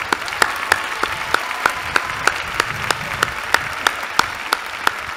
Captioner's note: applause